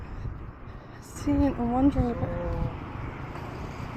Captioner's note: muttering to myself